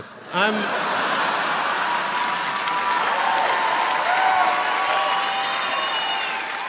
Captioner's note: audience laughs; audience applauds